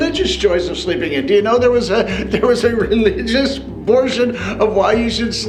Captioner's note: chuckle